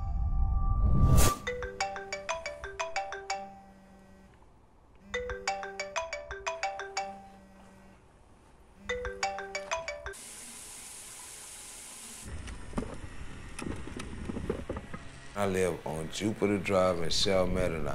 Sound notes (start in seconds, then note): 10.3 water running; 12.7 trash can rolling